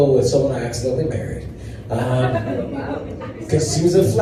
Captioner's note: laughter